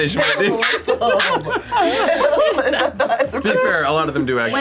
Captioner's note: laughs